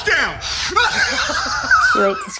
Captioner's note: he laughs